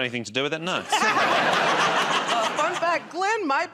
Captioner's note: laughter